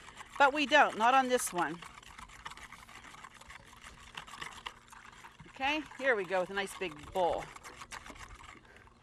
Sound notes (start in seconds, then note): 1.7 whisk whirling